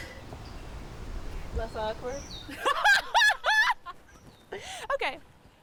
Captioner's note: laughs